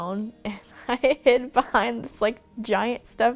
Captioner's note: laughing